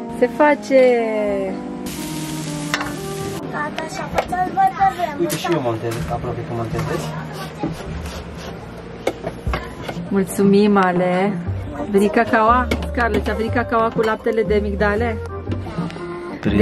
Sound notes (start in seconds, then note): 3.5 mumbles